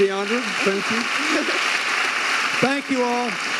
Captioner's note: audience applauding; giggling